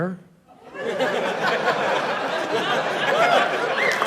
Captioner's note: laughter, cheering